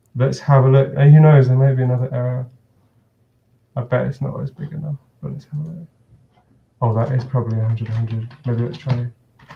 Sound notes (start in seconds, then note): 5.3 murmurs